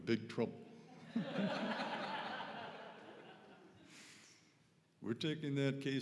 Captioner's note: audience laughing